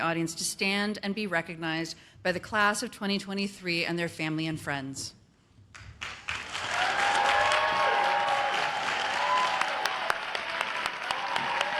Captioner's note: cheers and applause